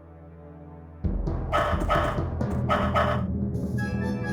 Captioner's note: Toto barking